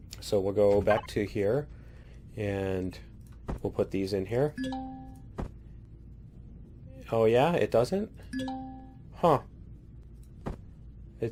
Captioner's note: ding